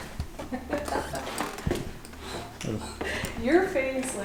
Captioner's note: laughing